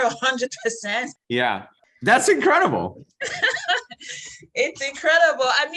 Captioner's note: laughs